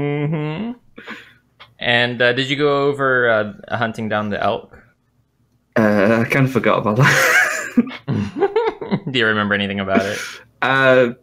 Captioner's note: laughter